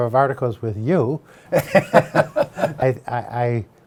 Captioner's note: laughs loudly